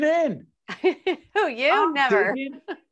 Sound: laughing

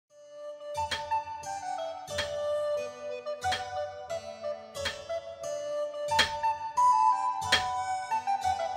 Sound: hammering Sounds

